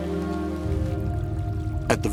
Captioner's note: running water